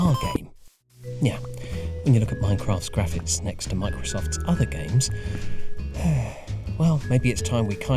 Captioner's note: sigh